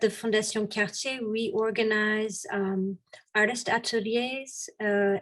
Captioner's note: woman speaks French